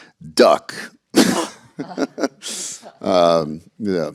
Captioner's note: laughter